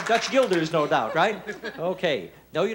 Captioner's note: laughing